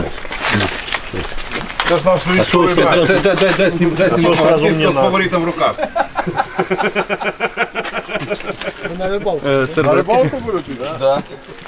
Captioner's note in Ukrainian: сміх